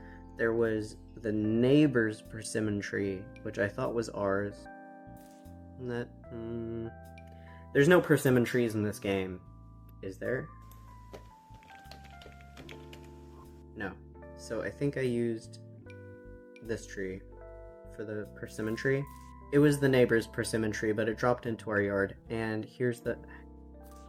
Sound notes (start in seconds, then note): 11.5 typing